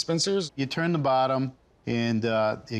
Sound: none

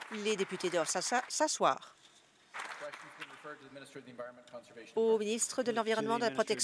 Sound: applause

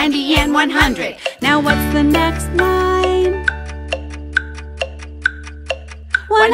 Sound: tick tock tick tock tick tock

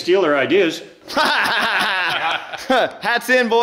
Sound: laughing

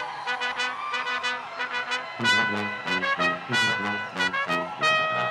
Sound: people cheering

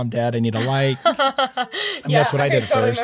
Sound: laughing

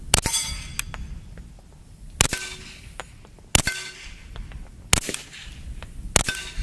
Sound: gun shots

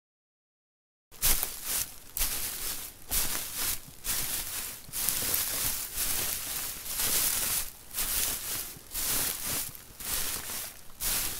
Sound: sound of footsteps

